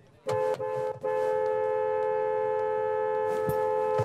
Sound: honking

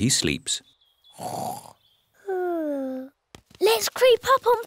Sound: snores

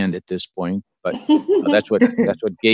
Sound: laughs

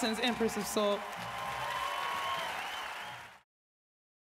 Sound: crowd cheering

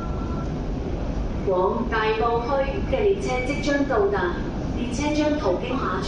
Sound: Cantonese

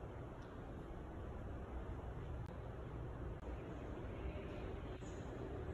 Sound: art gallery air humming

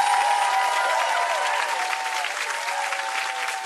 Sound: applause

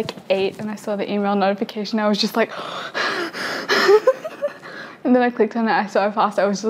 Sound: gasping

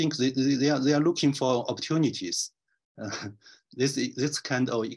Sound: chuckles

